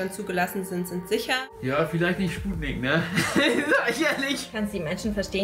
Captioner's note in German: lachend